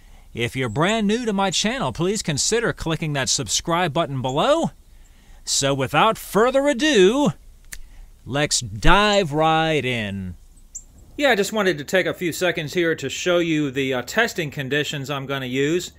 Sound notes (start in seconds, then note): 7.6 fingers snapping